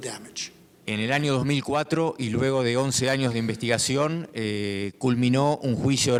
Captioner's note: speaking in foreign language